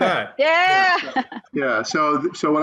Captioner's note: chuckles